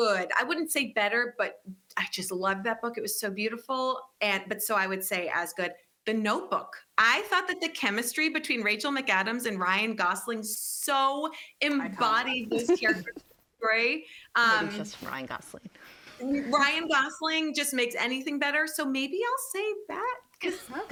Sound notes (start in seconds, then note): 14.5 faintly speaking